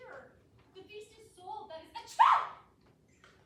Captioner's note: sneezes